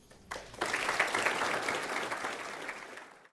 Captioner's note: applause